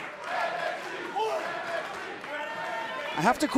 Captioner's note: fans chanting